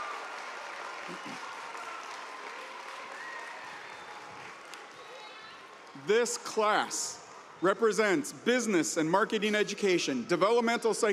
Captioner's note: cheers and applause